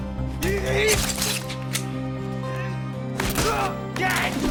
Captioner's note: gun clinking; man granting